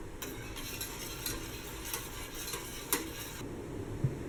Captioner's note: mixing sounds